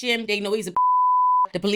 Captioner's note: beep